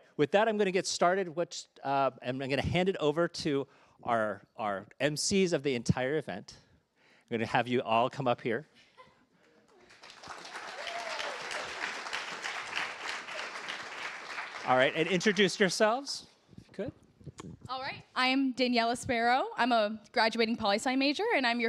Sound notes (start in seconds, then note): 9.7 applause